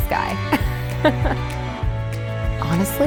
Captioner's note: laughs